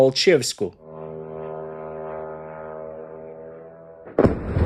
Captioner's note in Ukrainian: гул безпілотника; вибух